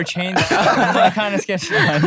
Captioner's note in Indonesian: tertawa